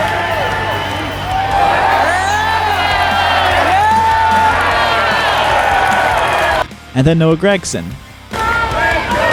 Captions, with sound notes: (crowd cheering) And then Noah Gragson.